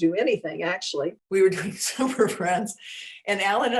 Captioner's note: laughing